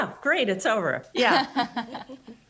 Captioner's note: group laughs